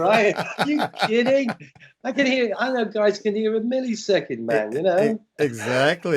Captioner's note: laughter; laughter